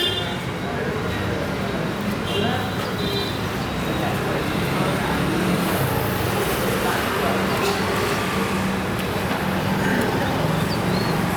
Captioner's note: street noises